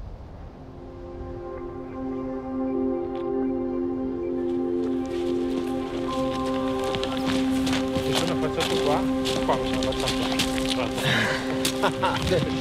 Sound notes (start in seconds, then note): 8.1 in Italian; 10.8 they laugh